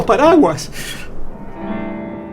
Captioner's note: thunder